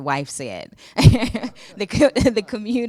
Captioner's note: laughing